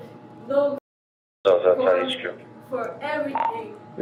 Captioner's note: radio chatter